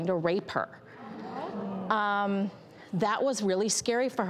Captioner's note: crowd gasps